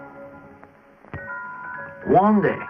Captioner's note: bell